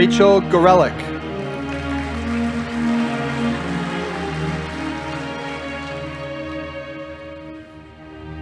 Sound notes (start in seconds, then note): 1.9 audience applauding